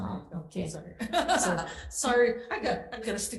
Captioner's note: laughs